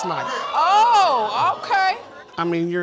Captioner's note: audience exclaiming